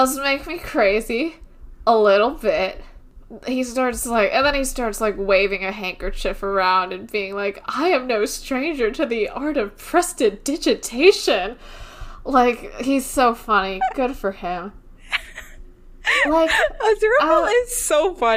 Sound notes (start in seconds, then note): 15.0 laughing